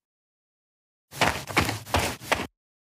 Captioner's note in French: FX - Footsteps - On Multiple Dirt - Run